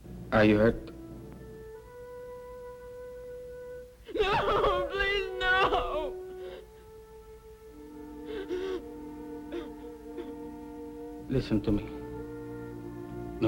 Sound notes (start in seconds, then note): 0.0 dramatic music; 8.2 whimpering